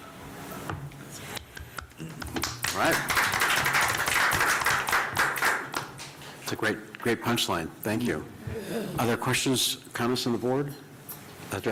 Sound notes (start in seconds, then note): 2.2 applause